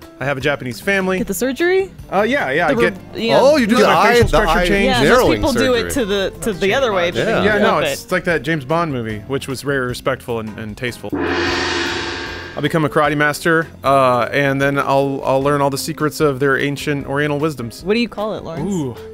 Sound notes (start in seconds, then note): 11.1 gong crash